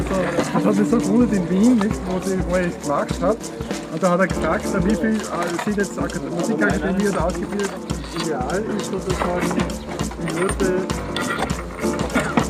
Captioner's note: participants chatting